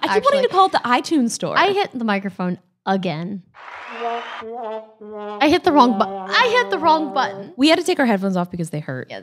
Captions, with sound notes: - I keep wanting to call it the iTunes store. - I hit the microphone again. (crowd cheering) (trombone playing) I hit the wrong button. I hit the wrong button. - We had to take our headphones off because they hurt.